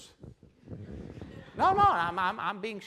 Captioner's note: laughing